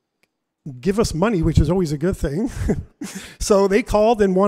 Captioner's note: laughs